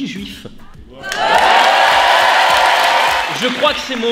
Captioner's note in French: applaudissement